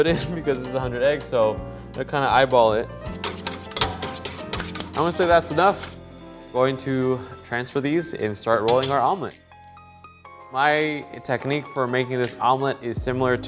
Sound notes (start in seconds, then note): 3.1 whisk clanking; 9.6 slow jazz music